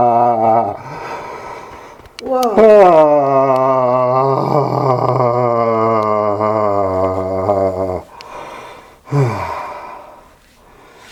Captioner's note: breathing and making sound